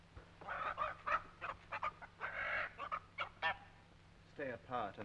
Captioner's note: chickens clucking